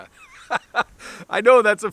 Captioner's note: laughs